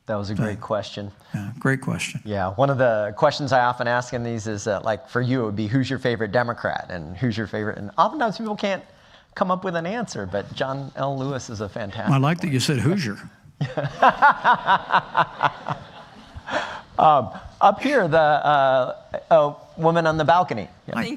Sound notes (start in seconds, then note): 14.0 laughing